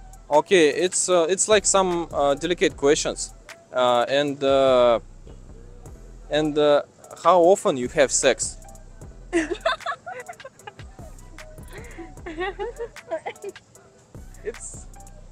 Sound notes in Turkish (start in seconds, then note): 9.2 Gülüşmeler